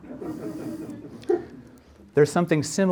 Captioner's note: audience laughs